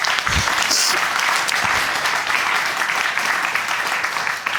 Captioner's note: applause